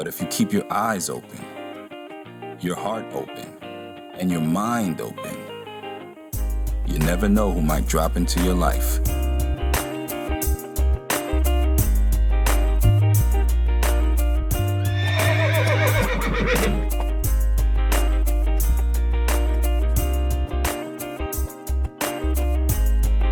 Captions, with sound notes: But if you keep your eyes open, your heart open, and your mind open, you never know who might drop into your life. (light jazz music) (horse whinnying)